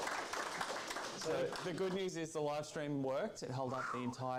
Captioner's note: applause